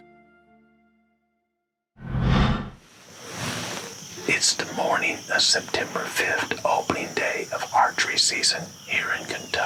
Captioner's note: whispering